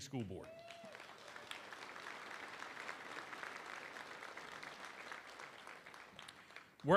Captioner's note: applause